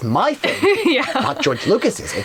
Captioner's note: laughs